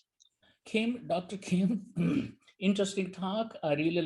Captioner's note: chuckles